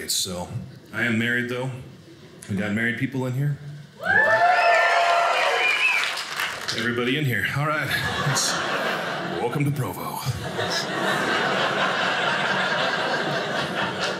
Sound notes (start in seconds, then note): 4.0 audience cheers; 7.8 audience laughing